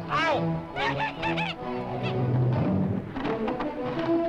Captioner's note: laughs